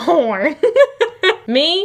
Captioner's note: laughs